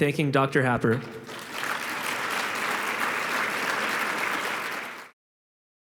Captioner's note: applause